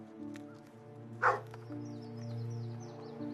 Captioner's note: dogs barking